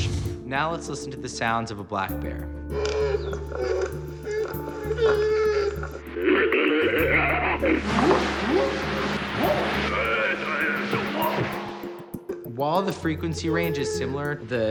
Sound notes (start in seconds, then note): 3.6 bear growling; 6.5 growling, whooping, chatter